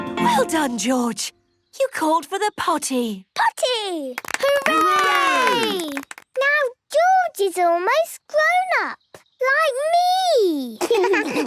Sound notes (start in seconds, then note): 4.1 cheering, clapping; 10.8 laughs